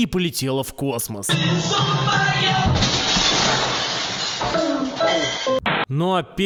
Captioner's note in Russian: крик и грохот разбитого стекла; помехи